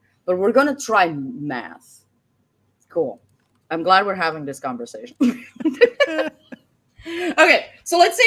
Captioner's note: laughs